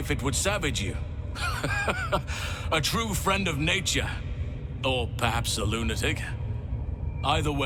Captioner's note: laughing